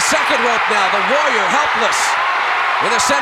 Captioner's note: audience cheering